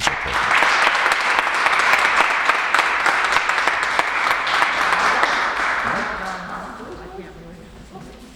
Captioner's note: applauses